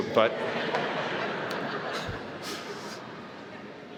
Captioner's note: laughing